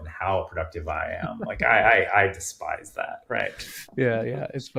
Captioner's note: chuckling